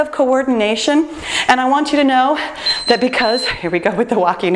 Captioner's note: timer beeps